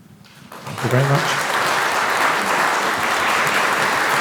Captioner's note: applause